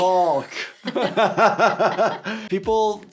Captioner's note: both laughing